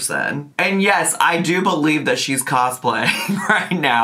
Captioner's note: laughs